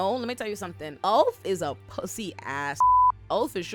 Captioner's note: beep